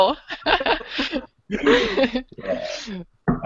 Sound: laughter

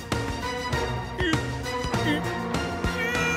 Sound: grunting

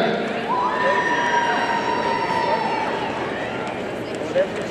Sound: audience cheering

